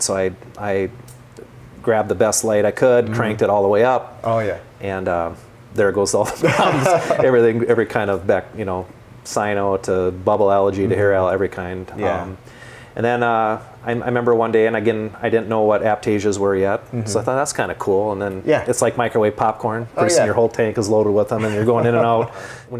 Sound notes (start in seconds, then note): 6.2 laughs